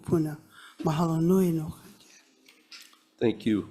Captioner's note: speaks foreign language